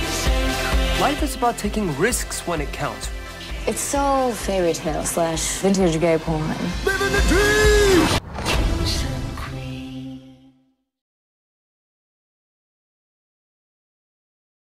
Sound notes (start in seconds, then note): 0.2 upbeat electronic music; 8.5 voiceover